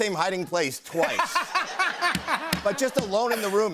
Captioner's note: laughter